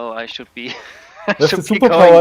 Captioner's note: chuckling